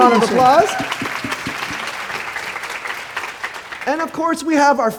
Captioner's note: audience applauding